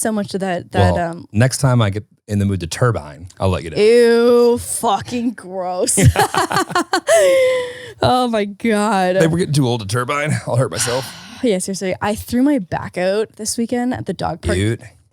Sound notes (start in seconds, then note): 5.9 both laughing